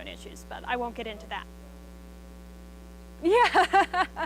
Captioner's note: student speaks faintly; laughing